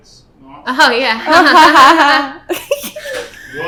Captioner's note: laughing